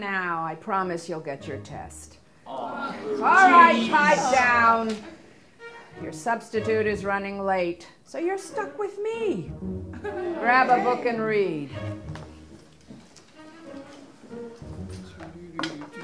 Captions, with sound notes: I promise you'll get your test. (STUDENTS GROAN) Alright, pipe down! Your substitute is running late, so you're stuck with me! Grab a book and read.